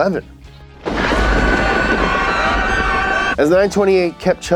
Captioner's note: thunder rumbling; people screaming